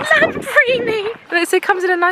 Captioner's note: laughs